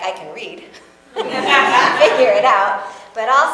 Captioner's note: audience laughs